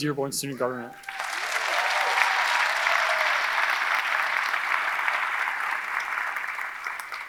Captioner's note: audience cheering; audience applauding